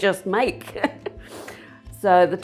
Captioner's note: laughs lightly